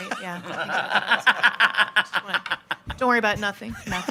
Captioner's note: all laughing